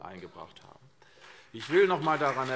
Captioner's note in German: Beifall CDU und BÜNDNIS 90/DIE GRÜNEN